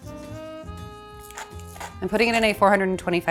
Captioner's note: salt swishing; spice grinder grinding